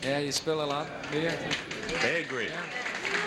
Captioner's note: audience applauding